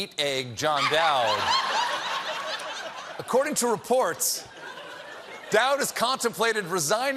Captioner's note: laughter